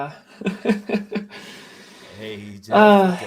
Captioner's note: laughs